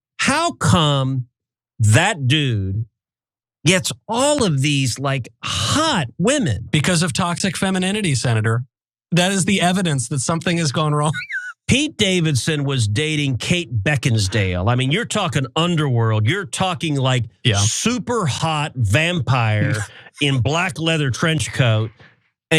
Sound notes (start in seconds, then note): 11.0 laugh